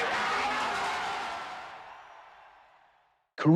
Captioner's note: cheers and applause